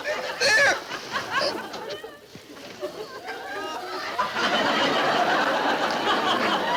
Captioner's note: audience laughing out loud